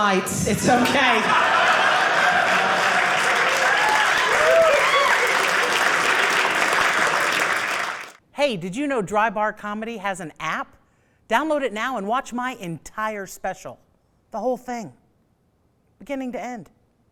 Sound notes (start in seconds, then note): 1.7 audience laughing; 2.7 audience applauding